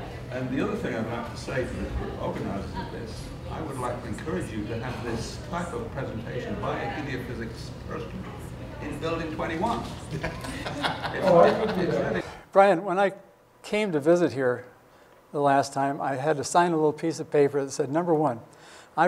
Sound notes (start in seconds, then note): 10.0 laughter